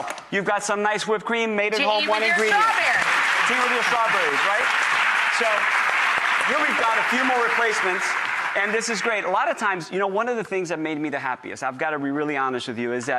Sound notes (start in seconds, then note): 3.2 applause